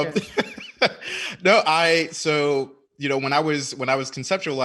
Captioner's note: laughing